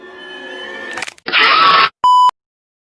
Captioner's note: crack; deep monstrous screaming